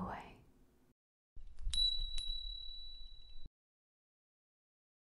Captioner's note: small bell ringing